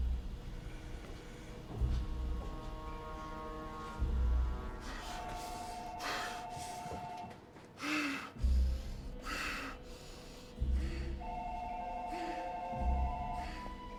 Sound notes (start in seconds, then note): 4.8 panting; 7.6 wheezing